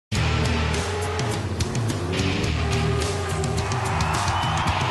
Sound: car engines humming; thumping music; crowd cheering

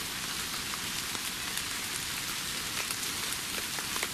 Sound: rain pattering

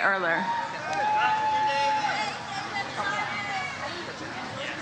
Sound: audience cheers

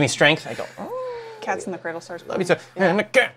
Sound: hums; grunts/grumbles

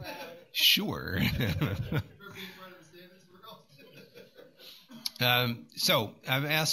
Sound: laughter

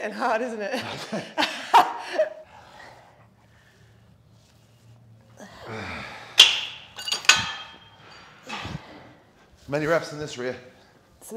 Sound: laugh

